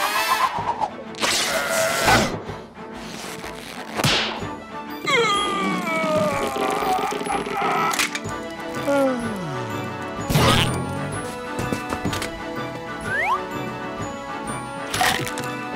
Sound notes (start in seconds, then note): 5.1 grunting; 8.7 sighs